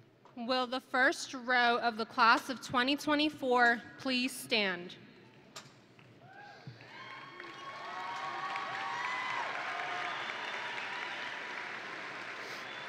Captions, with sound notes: - Will the first row of the Class of 2024, please stand. (audience and graduates cheering) (audience and graduates applauding)